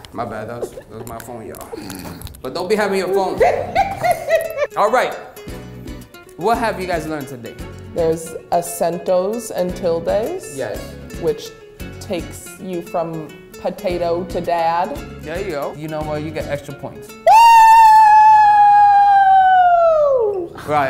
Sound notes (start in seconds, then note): 3.3 laughing; 8.3 speaks in Spanish; 17.2 screaming